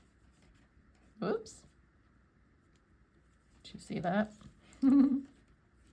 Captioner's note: giggles